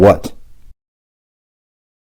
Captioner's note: silence